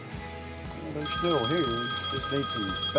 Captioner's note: telephone ringing